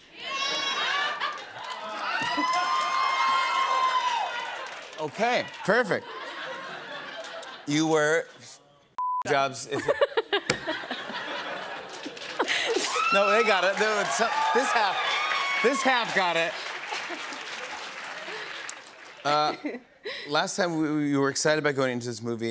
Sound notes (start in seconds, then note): 0.6 laughter; 2.0 cheers and applause; 6.0 laughter; 9.7 laughter